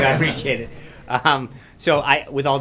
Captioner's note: laughter